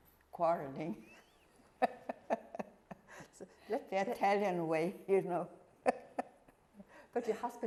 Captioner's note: laughing